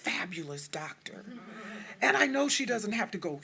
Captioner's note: audience chuckling